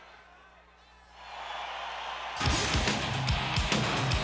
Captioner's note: audience cheers; upbeat music